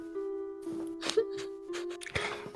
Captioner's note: giggles